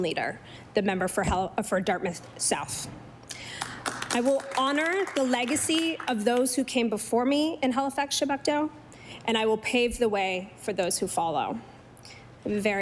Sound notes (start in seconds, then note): 6.1 applause